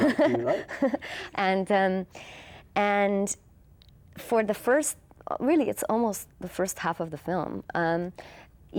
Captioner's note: laughs